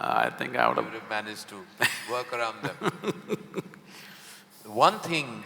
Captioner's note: Sadhguru laughs